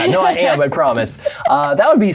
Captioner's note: laughing